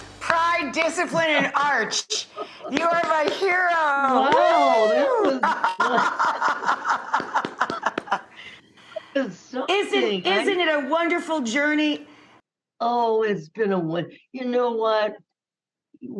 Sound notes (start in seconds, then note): 0.0 upbeat music fades; 2.5 hands clapping; 4.8 laughing; 6.8 clapping